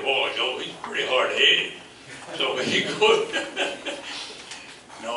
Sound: laughs

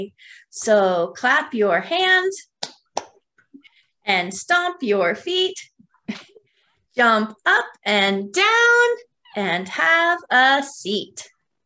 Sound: claps hands

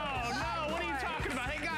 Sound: applause

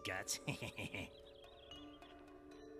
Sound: laughs

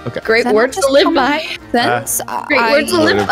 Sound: crying

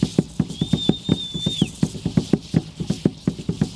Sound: whistling

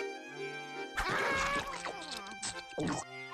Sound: munching; gulping

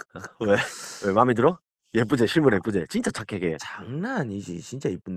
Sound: just laughs

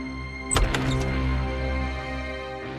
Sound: door opens

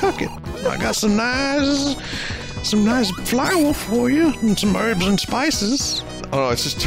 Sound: Col. Sanders voice; laughs; Col. Sanders voice

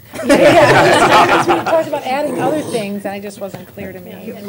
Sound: laughter

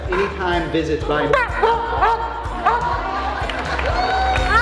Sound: Winston barks

